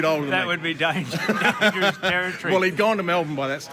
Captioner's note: both laughing